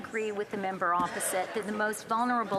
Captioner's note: speaking French